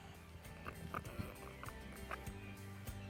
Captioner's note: bird sounds, eating fish